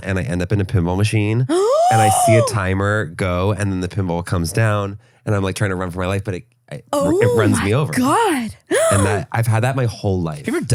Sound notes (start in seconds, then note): 1.5 gasping; 8.6 gasps